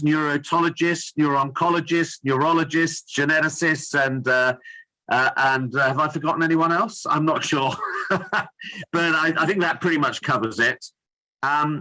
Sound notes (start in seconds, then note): 7.8 laughs